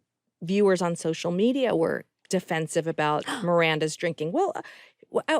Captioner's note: gasps